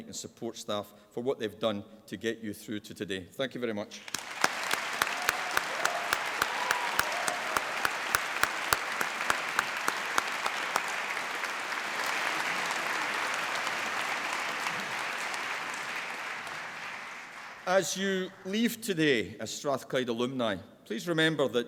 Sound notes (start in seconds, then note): 4.3 applause